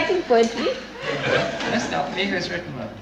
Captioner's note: laughing